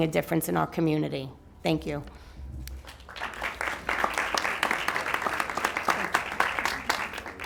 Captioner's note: applause